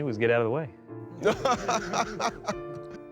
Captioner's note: laughing